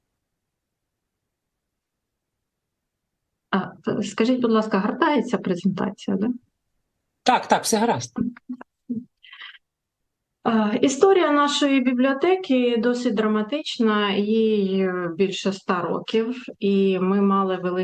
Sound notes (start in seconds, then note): 1.2 foreign language